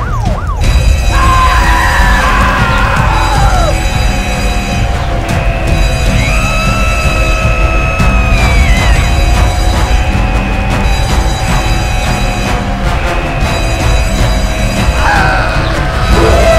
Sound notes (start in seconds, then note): 0.6 bell ringing; 1.1 screaming; 8.9 bell ringing; 14.8 dramatic music